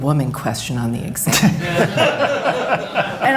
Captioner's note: laughter